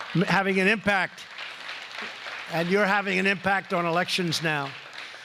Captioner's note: applause